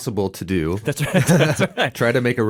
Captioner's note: laughs